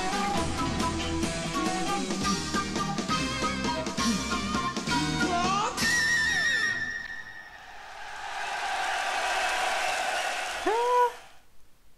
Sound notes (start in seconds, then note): 0.0 rock music playing; 0.1 flute playing; 7.2 crowd cheering